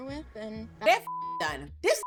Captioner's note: beep